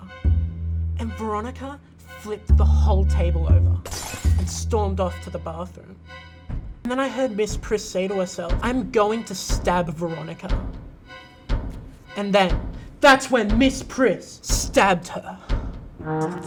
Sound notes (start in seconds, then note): 3.2 plates crashing